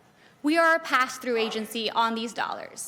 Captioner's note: crowd Noise